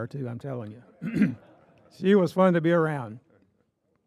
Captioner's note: audience laughing